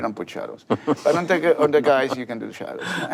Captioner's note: panelist laughs